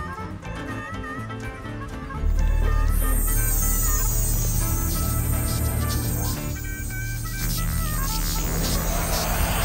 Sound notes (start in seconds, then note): 1.4 device operating